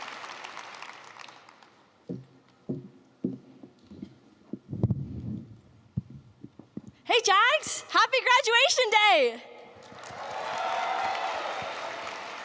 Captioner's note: applause